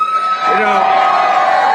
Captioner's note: cheers